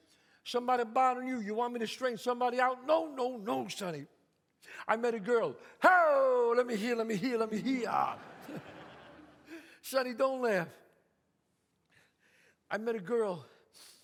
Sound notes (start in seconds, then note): 7.8 audience laughs